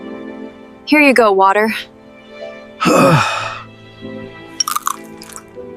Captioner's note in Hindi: गहरी सांस लेने की आवाज़